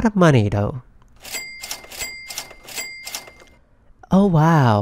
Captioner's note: cash register x3